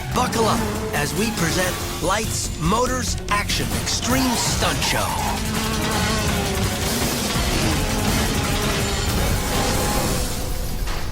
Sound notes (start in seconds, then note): 7.0 engines revving